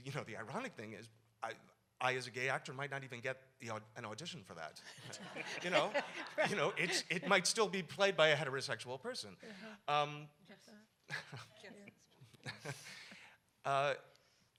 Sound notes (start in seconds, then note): 5.0 audience laughs